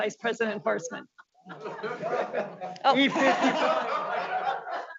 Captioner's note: board members laughing